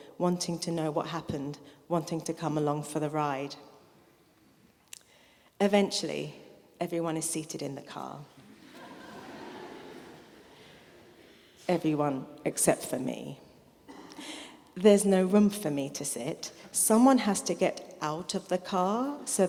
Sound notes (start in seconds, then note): 8.4 audience laughing